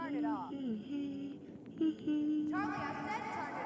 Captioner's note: humming